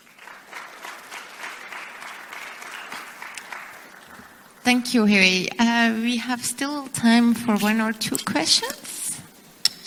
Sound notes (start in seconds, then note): 0.0 applause